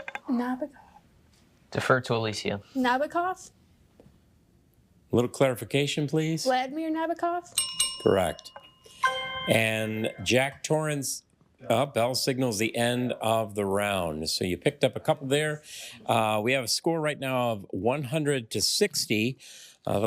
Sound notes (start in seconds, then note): 7.5 bell dings; 7.5 triumphant chime